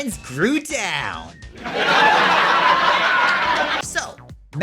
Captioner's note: audience hoots and hollers